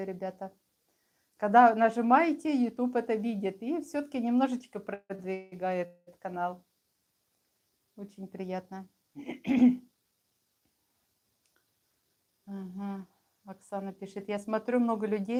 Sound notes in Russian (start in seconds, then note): 9.2 откашливается